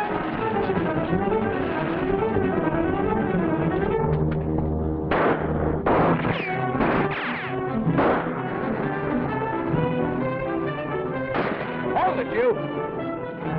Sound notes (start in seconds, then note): 5.0 guns firing